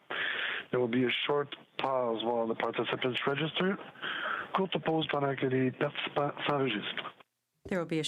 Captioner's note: speaking french